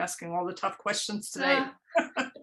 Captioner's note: laughter